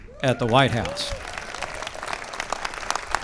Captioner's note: applause